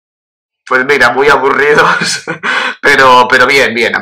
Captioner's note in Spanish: ríe